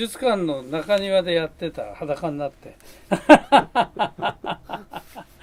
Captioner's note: chuckle